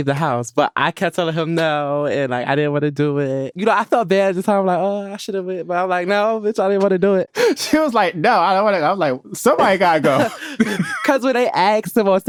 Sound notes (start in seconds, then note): 9.6 chuckles